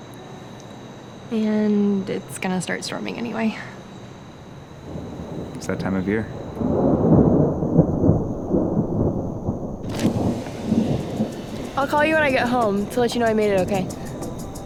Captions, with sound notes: - You know I can't and it's gonna start storming anyway. - It's that time of year. (thunder rumbling) - I'll call you when I get home to let you know I made it okay.